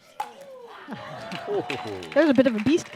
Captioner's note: laughs